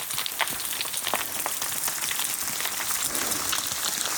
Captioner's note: rocks bouncing